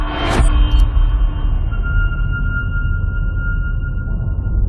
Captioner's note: dramatic sound